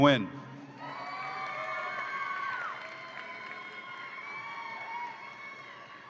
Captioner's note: audience applauds and cheers